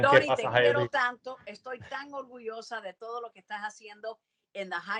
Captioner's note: Ileana speaks in foreign language